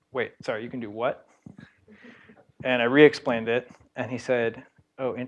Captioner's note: laugh